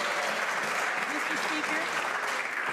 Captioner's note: some Applause